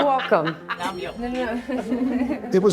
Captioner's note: laughing